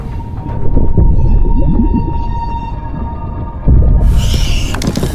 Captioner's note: water bubbling